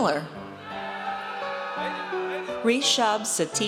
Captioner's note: audience cheers